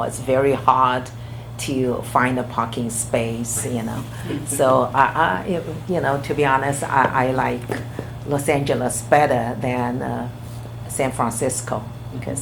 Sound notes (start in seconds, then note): 4.1 laughs